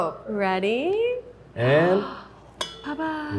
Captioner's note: Arden gasps